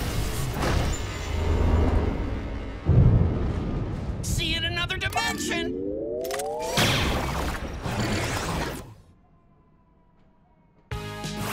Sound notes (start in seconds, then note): none